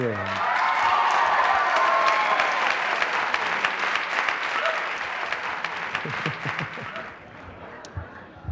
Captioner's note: applause